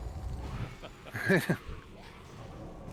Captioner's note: laughs